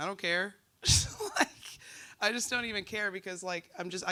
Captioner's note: laughs